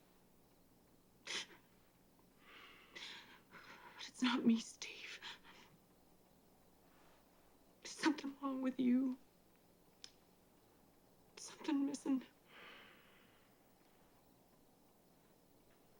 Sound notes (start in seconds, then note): 2.4 sniffles